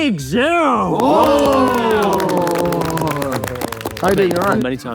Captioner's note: group cheers